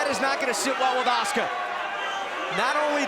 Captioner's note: crowd chatter